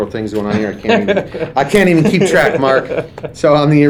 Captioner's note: laughing